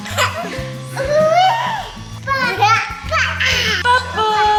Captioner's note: baby giggles